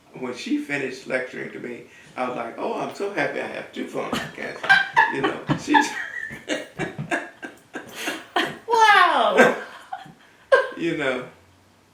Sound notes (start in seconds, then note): 5.6 laughter